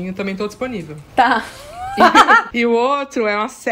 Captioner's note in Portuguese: risos